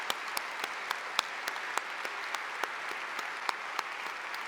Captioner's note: applause